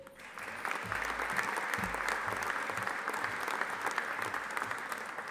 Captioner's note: audience applauding